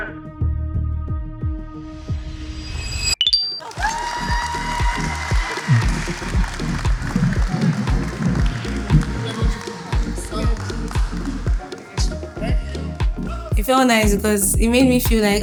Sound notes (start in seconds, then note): 0.2 upbeat music; 3.6 cheering